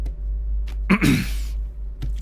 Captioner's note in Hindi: गले को साफ करता है